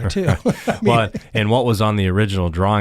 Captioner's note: laughs